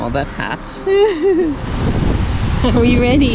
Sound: laughs

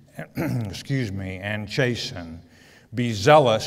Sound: clears throat

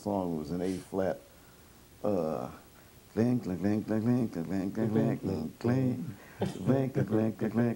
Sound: humms

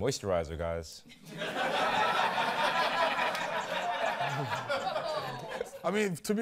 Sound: laughter

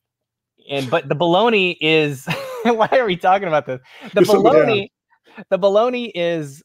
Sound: laughs

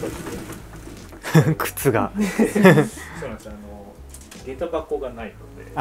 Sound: laughter

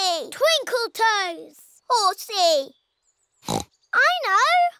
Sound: oinks

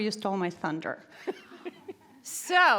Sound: laughs

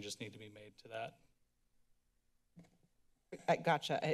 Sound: silence

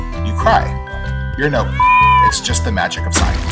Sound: meow sound effect

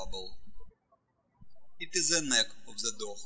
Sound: birds chirping

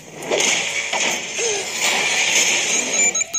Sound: introder alarm

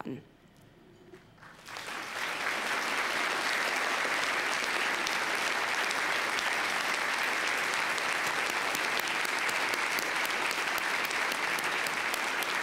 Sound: applause

